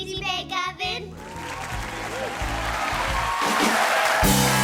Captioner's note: cheers and applause